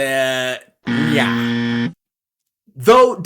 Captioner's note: wrong Sound Effect